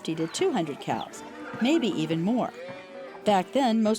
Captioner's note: cows lowing